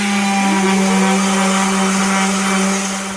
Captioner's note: sawdust squeaking